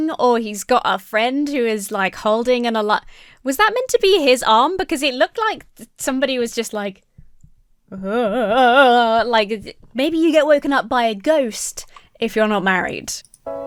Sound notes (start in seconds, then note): 8.1 comically imitates ghost; 13.4 uplifting music